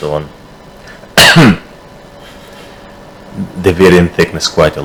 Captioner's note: coughs